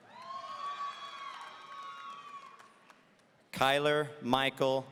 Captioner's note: audience cheering